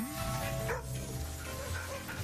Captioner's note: vocalizing, barking